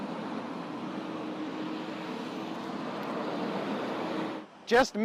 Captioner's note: traffic humming continues